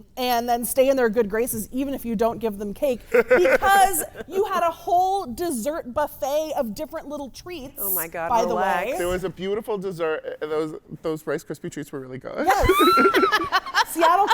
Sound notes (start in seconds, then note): 3.1 guy laughs; 12.4 laughing